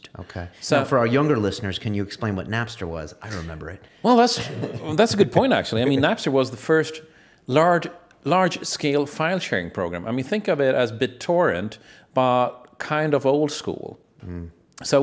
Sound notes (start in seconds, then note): 4.3 laughs